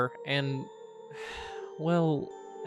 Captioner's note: sighs in disappointment